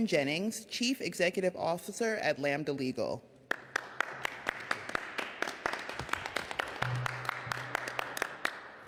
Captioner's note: applause